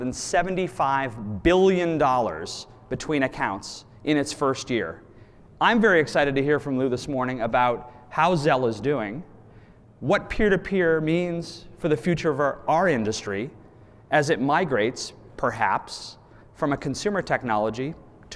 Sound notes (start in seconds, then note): none